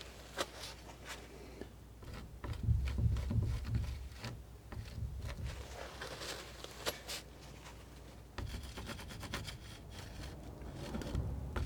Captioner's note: scratching